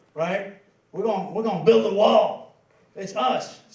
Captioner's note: in a gruff Southern accent